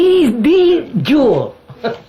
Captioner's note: laughs